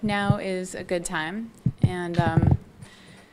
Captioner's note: none